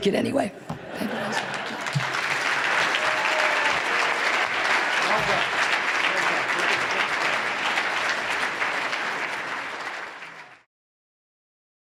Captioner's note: applause